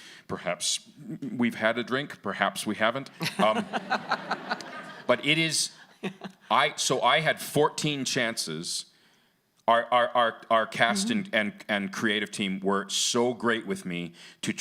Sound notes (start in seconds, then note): 3.2 audience laughing